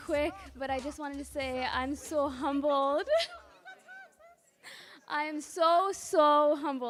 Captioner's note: laughs